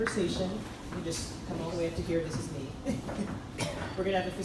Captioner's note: laughs